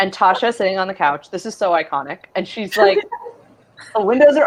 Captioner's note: laughs